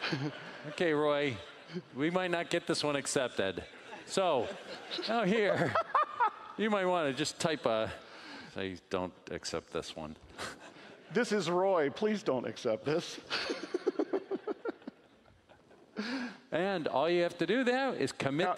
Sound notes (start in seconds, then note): 13.3 laughing